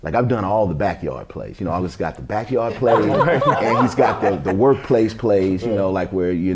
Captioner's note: laughter